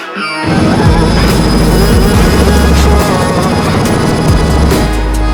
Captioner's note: helicopter blades whirring